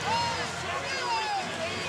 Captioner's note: crowd chanting, "defense"